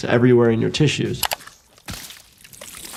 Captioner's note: mouse clicking; monster squishing